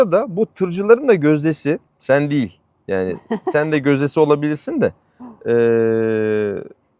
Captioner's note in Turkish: kahkaha